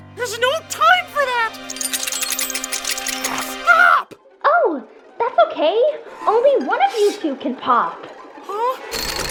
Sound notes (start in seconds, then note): 1.6 mechanic clanking; 9.1 unnerving music